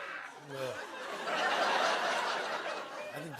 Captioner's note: laughter